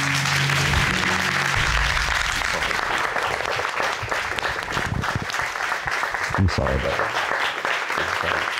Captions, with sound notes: (AUDIENCE APPLAUDING) I'm sorry, babe.